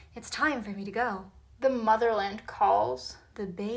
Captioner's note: sarcastically